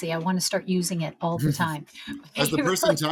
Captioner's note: host laughs; laughs